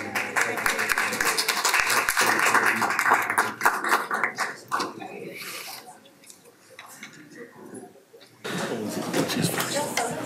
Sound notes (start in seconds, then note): 0.0 applause; 6.7 chattering